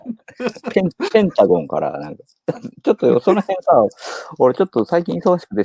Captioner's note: laughs